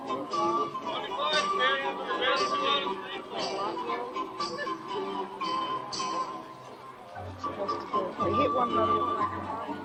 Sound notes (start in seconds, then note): 2.7 speaking faintly; 4.0 people chattering